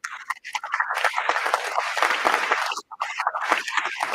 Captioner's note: applause